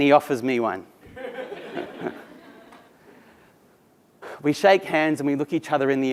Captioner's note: laugh